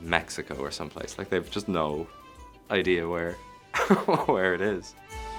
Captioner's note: laughs; lively music